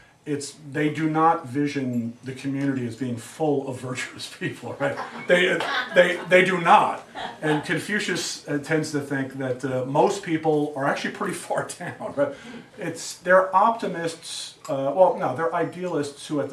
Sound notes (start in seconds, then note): 4.8 students laugh